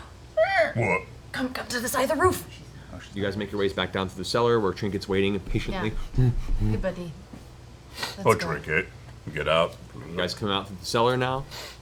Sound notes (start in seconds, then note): 1.5 whispering; 5.9 bear grunts